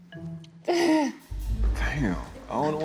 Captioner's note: chuckles